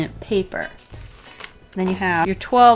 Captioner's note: sticker asmr